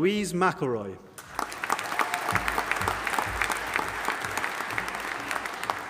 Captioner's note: audience applauding